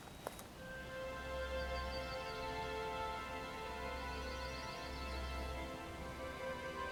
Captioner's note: birds chirping; light gentle music